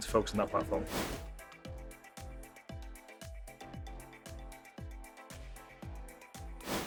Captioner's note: upbeat music; abrupt swooshing; abrupt swooshing